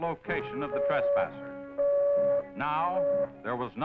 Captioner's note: machine beeping